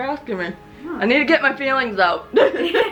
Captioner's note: laughter